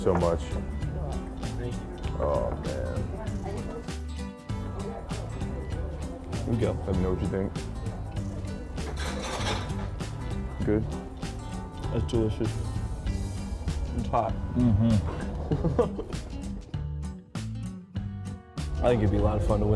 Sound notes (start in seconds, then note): 14.6 laughing; 16.9 cheerful guitar